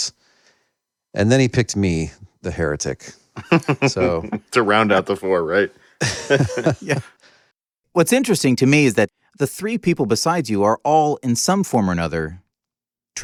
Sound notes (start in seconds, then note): 3.4 laughing; 6.0 laughter